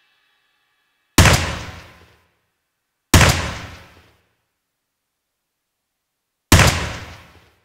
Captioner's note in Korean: 권총 연습 소리